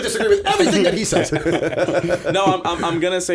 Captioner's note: laughter